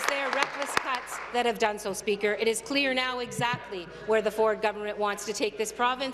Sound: applause

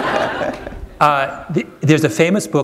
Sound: laughter

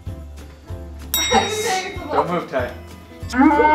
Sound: triumphant bell sound

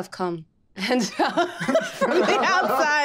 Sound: group laughing

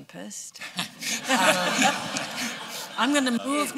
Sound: laughter

